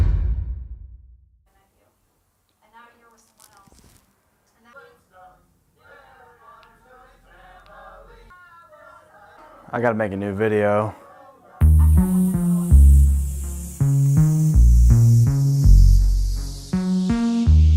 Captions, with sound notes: (TV running) - I gotta make a new video.